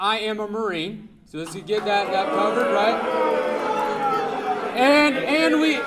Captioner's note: audience booing